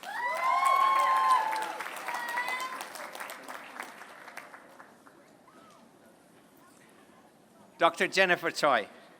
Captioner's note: applause